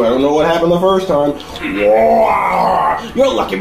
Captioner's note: roars in anger